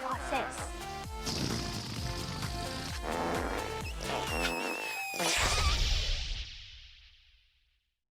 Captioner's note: fart noises